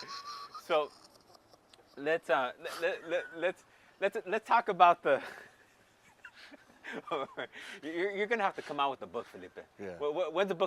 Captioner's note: laughs